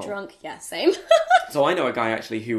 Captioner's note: laughs